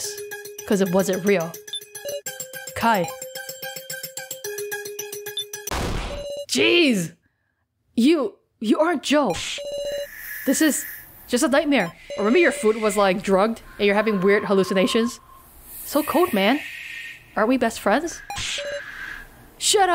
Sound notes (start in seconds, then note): 5.7 loud sound effect